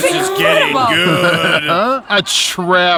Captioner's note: laughs